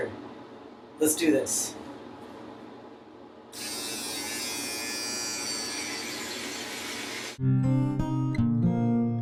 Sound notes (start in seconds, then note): 3.5 razor buzzing; 7.4 chill guitar music